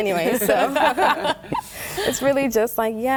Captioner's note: laughter